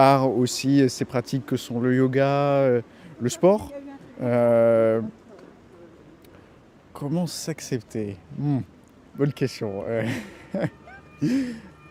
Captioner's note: laughter